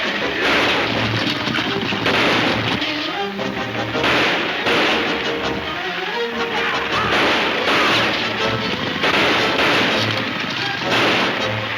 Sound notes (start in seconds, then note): 1.0 gunshots banging; 8.0 gunshots banging